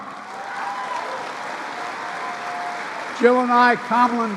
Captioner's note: applause